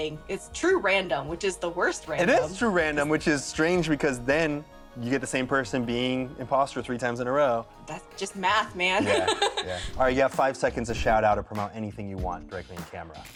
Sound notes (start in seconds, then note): 9.0 laughs